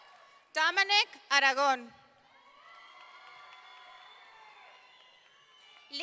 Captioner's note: audience cheering; audience cheering